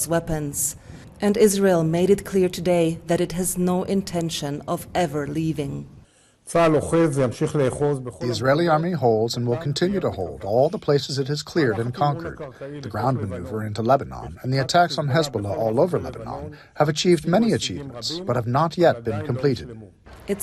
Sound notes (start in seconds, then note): 8.6 through translator